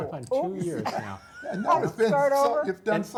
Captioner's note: laugh